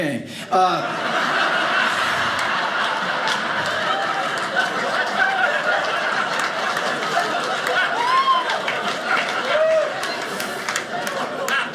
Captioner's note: audience laughing